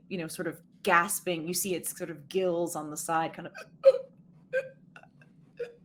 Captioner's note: gulping